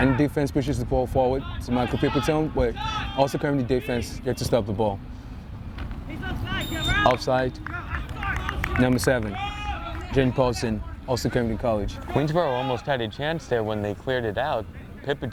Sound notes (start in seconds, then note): 6.5 whistle tweeting